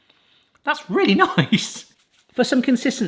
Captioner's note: chuckles